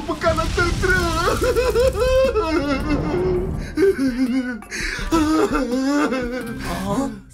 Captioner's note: fire blazing; Sumorai sobbing